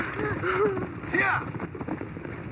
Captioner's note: stranger crying